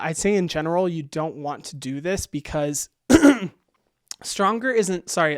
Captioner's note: clears throat